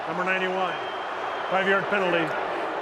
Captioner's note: booing